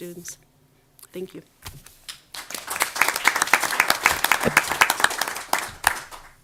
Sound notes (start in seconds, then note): 2.2 audience applause